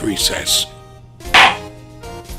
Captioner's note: gavel slam!